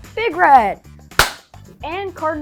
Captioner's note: hands clapping